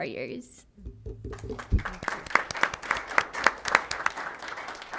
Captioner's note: applause